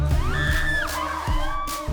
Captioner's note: all screaming